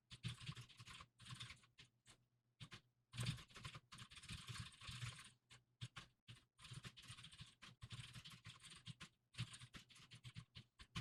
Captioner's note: typing sounds